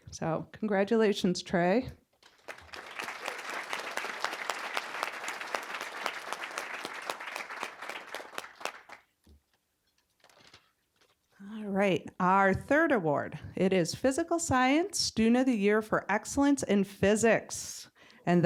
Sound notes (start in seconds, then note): 2.3 applause